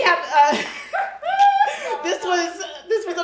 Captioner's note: laughs